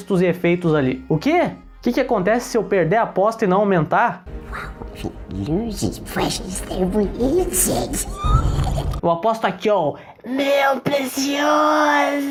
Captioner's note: Golum coughing